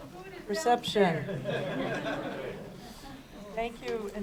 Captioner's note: risas